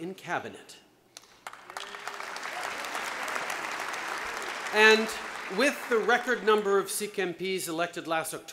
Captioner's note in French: Applaudissements